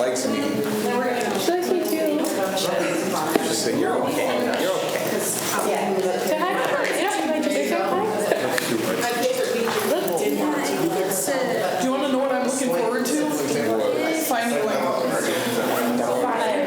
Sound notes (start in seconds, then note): 3.1 students chatter